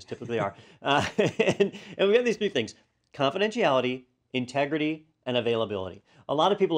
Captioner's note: laugh